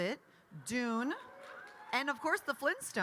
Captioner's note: attendee cheering